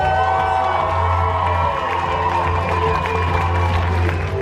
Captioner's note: crowd cheering